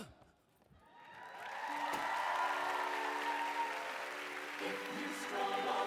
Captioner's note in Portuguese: audience cheering and applauding